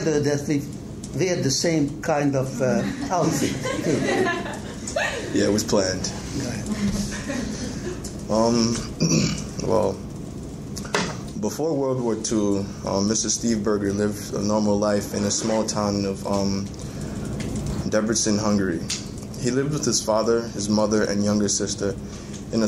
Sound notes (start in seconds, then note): 2.6 amused laughing; 6.6 amused chuckling